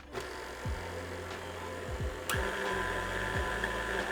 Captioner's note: stand mixer whirring